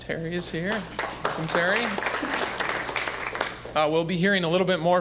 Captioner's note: applause